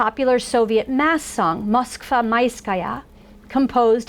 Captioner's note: foreign language